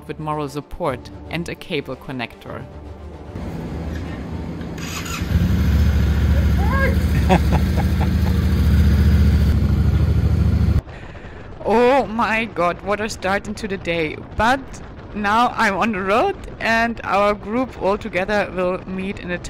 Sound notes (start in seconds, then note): 3.3 motorbike roaring; 6.9 man chuckling